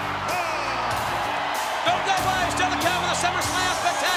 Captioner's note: applause